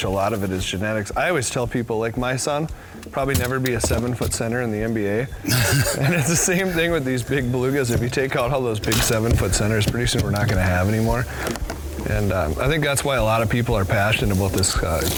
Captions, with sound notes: a lot of it is genetics. I always tell people like my son probably never be a seven foot center in the NBA. (laughter) And it's the same thing with these big bluegills. If you take out all those big seven foot centers, pretty soon we're not going to have anymore. And I think that's why a lot of people are passionate about this